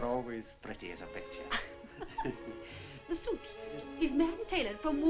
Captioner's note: laughs